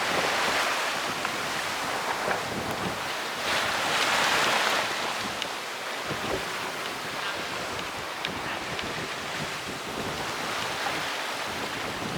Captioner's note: wave Noise